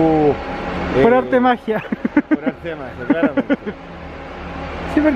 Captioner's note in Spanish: risas